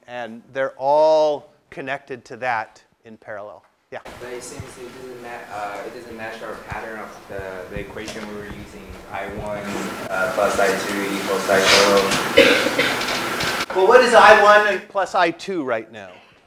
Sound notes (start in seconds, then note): 12.3 cough